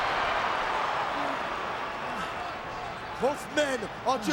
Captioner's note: audience cheering and clapping